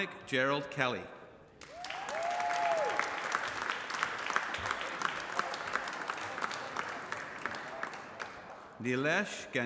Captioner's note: applause